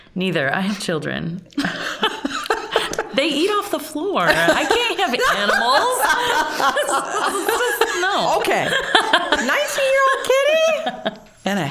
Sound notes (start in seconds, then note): 1.6 all laughing; 6.0 all laughing